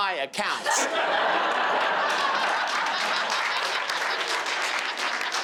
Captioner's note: crowd laughing and clapping